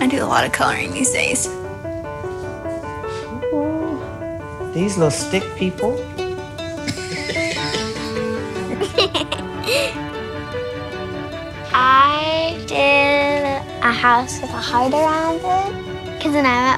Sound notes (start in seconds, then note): 4.5 laughter